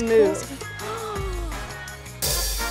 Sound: gasping

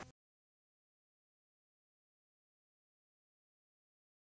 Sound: gap in recording

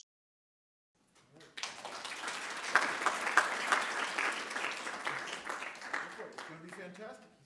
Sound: audience claps

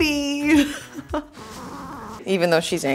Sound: Bloopie growling

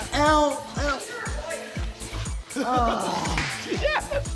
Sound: laughter

